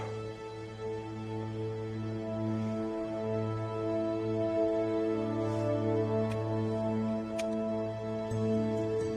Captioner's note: sighs